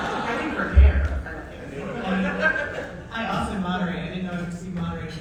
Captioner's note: audience laughs